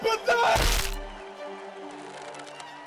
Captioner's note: snap